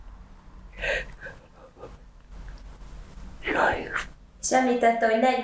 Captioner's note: yawning